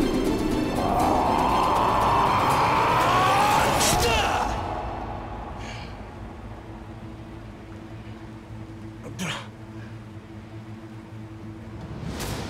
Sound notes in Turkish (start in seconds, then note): 0.8 Bağırma sesi; 5.5 Nefes sesi; 9.0 Öksürme sesi